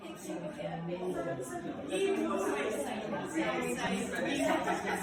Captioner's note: crowd chatter